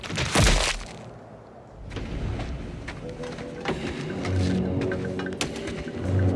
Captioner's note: slashing and thudding